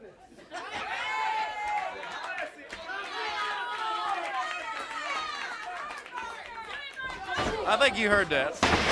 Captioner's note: crowd chatter